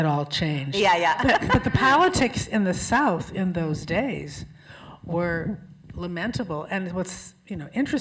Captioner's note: laughter